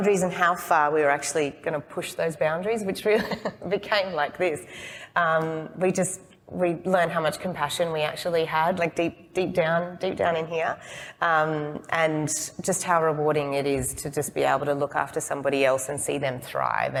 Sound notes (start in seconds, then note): 5.2 laughs